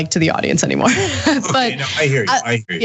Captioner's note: laugh